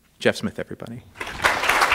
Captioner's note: applause